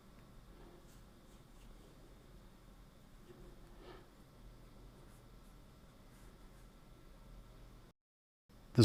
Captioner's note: silence